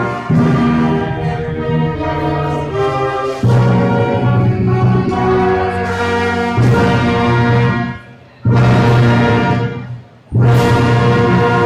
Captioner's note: dramatic music; crowd applauding